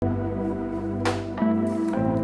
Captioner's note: plop